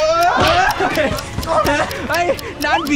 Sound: laughs

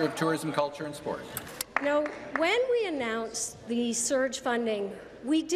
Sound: applause

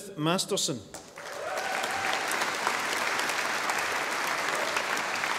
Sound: audience applauding

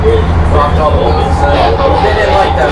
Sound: radio drowns out speaker

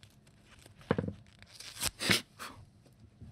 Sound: paper tearing

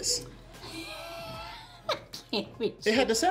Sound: Tia laughs

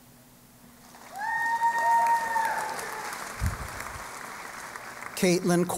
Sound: cheering and Applause

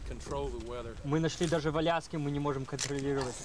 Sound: speaking russian

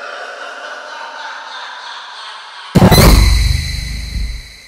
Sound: dramatic screeching

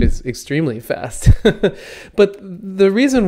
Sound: laughs

